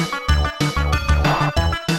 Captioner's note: glug glug